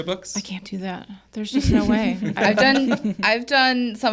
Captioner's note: co-hosts laughing